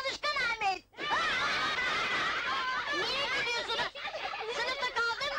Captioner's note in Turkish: Kalabalık kahkaha atıyor